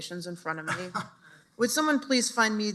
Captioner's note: chuckles